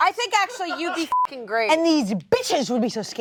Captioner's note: beeps